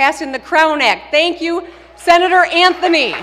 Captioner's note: applause